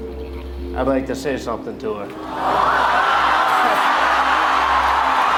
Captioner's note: crowd cheering